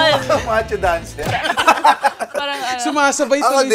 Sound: laughter

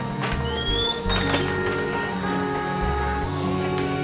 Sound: door squeeks

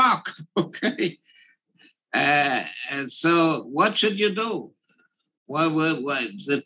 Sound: laugh

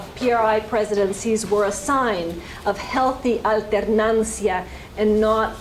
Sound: spanish

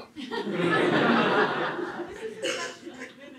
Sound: laughter

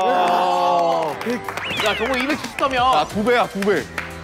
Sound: Aplausos

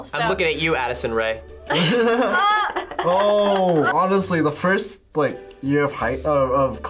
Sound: all but laugh

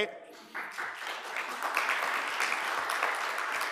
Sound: applause

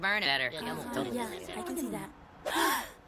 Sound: chatting

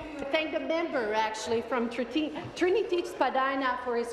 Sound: speaking in french

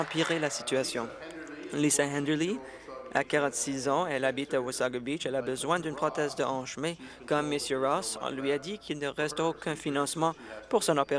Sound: applause

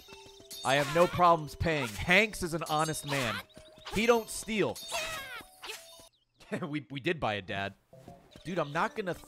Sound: laughs

